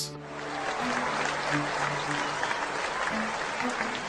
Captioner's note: audience applauding